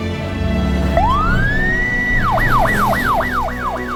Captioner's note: siren